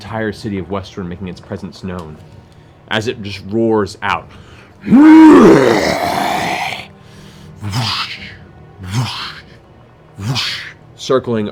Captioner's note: roar, sweeping wings